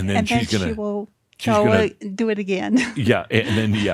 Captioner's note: she chuckles